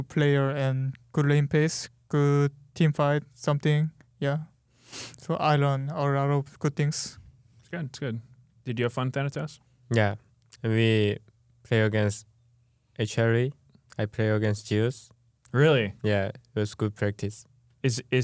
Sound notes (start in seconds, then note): none